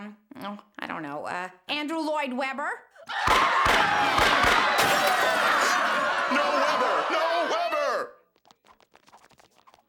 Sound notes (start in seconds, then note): 3.1 audience screaming, gunshots; 8.4 screaming stops